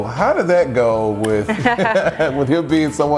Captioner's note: laughing